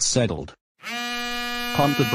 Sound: cell phone ringing

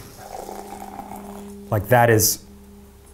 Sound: liquid pouring

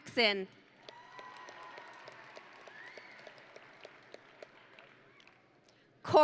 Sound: audience and graduates cheering

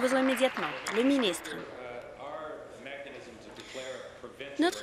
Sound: applause

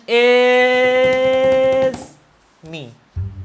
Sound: hands drumming

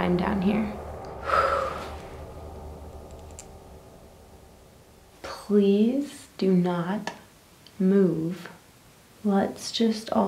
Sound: sighs

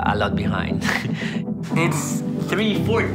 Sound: laughs

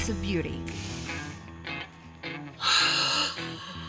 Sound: inhaling, exhaling breath of life

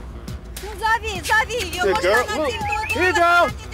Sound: speaking in Russian

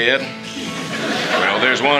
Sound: audience Laughing

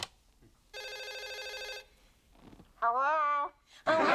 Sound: phone ringing

